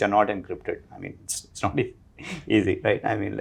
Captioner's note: chuckles